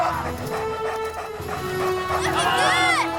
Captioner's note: dogs panting